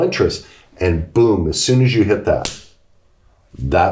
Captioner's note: smacks hands